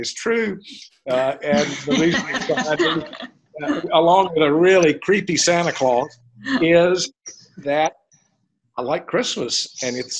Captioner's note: laughter